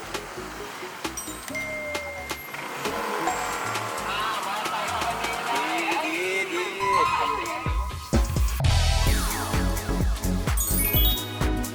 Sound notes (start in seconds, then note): 4.0 A motorcycle passed by at the perfect moment